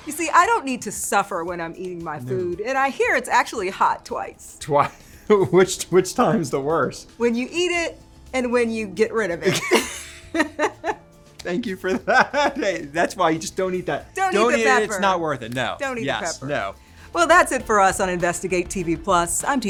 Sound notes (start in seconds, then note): 4.9 laughs; 11.6 laughs